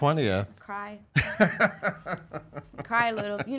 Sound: laughing

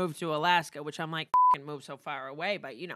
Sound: beep

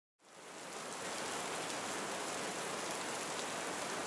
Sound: rain falling

